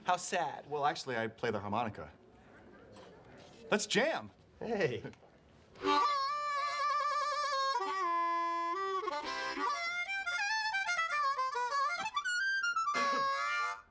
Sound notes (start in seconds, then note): 4.8 chuckles